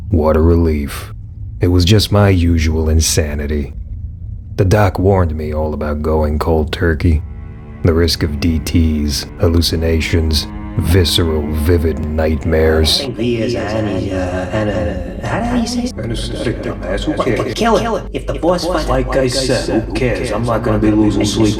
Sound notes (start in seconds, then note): 13.7 echoes